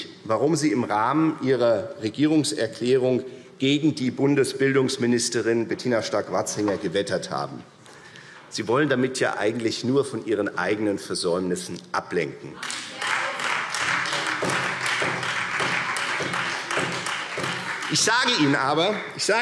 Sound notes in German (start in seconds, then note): 12.6 Beifall